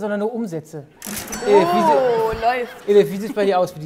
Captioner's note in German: Lachen